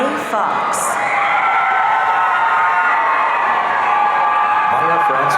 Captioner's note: audience cheering